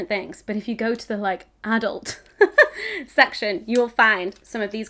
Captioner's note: laughs